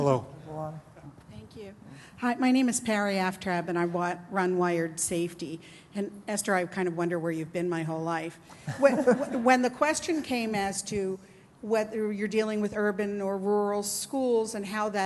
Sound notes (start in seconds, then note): 8.6 laughter